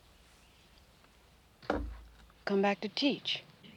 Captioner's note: bowl set down on table